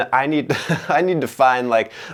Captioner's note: laughing